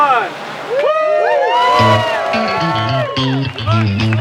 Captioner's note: cheering